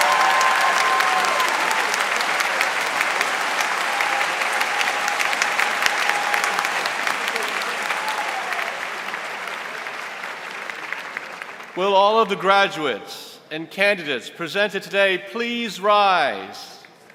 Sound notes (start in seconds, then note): 0.0 applause